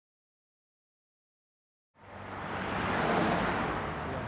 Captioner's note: traffic noises